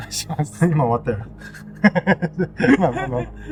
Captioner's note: laughs